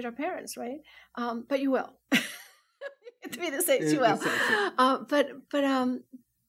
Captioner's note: laughs